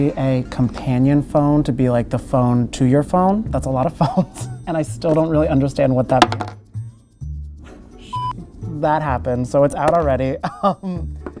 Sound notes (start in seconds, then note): 4.3 laughs